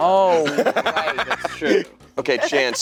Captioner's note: laughing